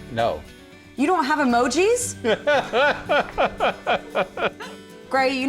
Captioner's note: laughing